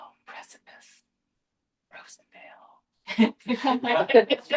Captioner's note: laughter